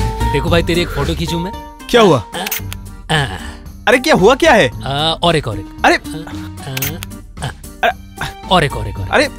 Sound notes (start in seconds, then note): 2.4 camera clicks; 6.7 camera clicks